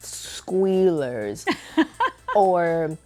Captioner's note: laughing